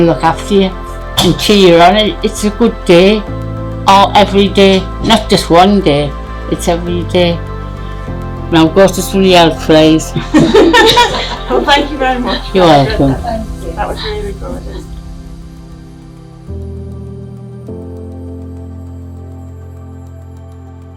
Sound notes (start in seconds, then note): 10.2 laughing